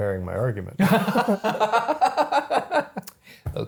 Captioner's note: both laughing